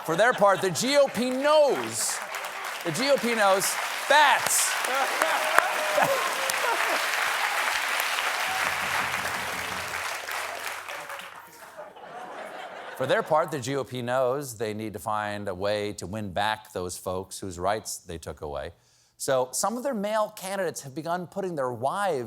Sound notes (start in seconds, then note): 6.1 applause; 8.2 laughter